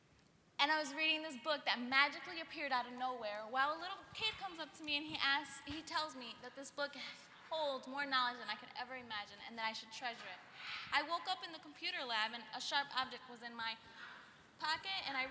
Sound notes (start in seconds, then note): none